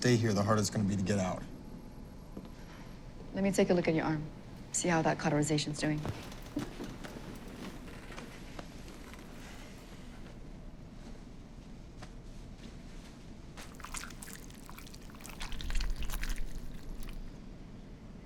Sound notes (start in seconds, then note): none